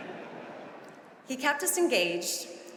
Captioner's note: audience laughing